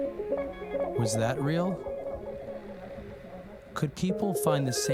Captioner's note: 吟诵; chanting